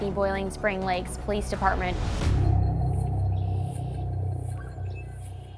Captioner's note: suspenseful music plays; birds chirping